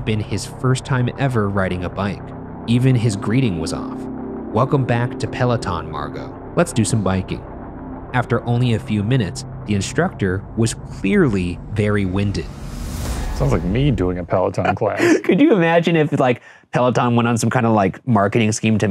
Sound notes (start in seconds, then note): 14.6 laughing